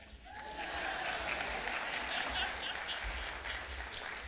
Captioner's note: clapping